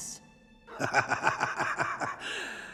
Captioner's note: laughing